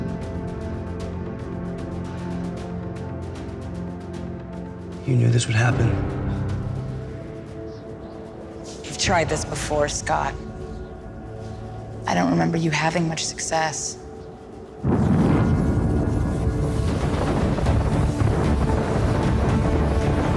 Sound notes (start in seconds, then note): 0.2 dramatic determined music continues; 6.8 tense music; 14.6 powers rumble; 16.9 dramatic music